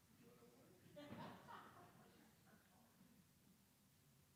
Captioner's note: laughs